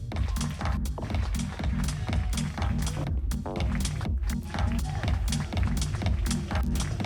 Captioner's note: applause